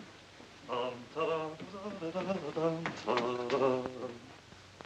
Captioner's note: humming